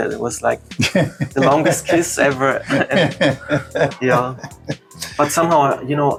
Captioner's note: laughter